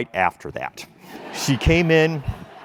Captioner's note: laugh